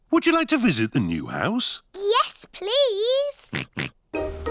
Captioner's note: oinks